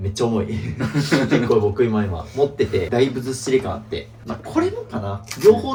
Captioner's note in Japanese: 笑い